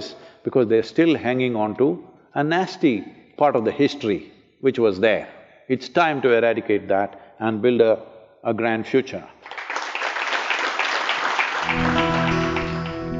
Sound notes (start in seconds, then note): 9.4 applause